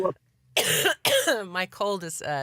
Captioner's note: coughs